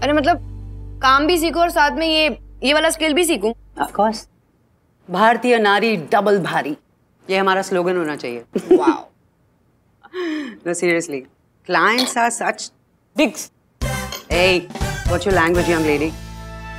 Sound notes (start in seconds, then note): 8.6 giggling